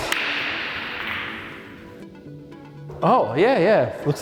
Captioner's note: light music; balls cracking